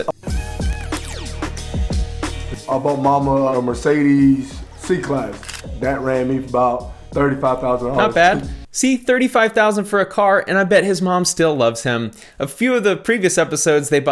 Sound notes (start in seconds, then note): 0.3 upbeat music; 5.3 camera shutters